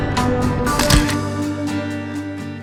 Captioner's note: click